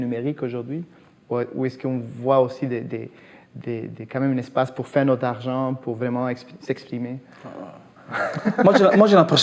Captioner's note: laughs